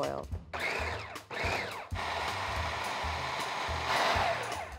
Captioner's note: food processor whining